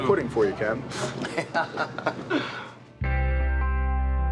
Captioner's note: laughing